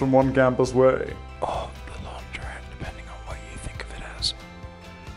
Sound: whispered

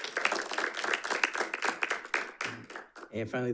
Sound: audience applauding

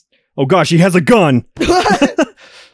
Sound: laugh

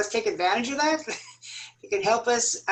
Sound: laughter

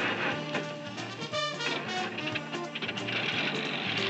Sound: engine turns over

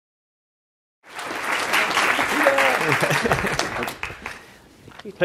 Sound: applause

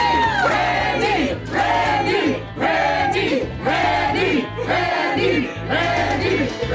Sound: crowd cheering; crowd

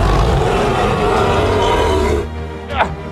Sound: Ankylosaurus Sounds

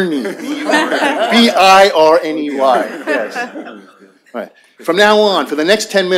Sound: laughter

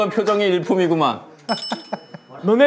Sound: outputting laughter

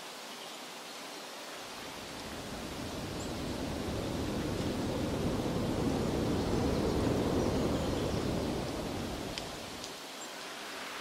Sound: birds chirping

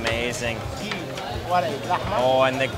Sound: speaking in foreign language

